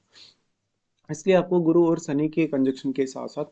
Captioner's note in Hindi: नाक से की जाने वाली आवाज़